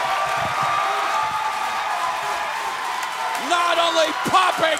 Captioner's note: crowd cheering